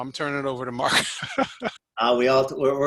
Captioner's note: laughs